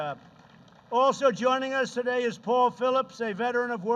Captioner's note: applause